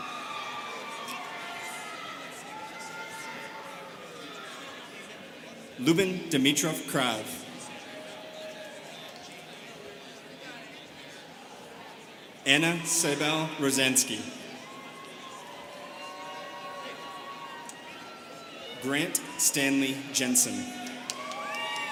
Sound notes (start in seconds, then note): 0.0 students cheering; 9.6 students chattering